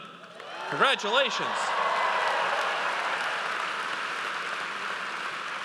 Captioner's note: audience cheers